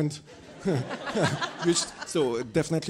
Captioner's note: attendees laughing